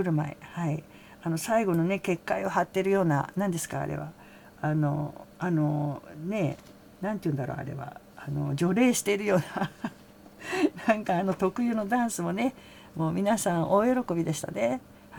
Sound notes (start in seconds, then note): 9.4 laughs